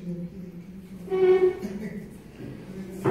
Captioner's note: laughs